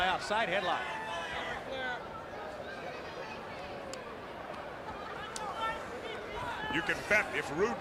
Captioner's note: crowd chatter